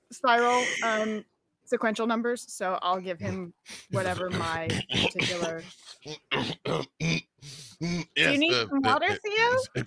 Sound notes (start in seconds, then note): 3.9 chocking up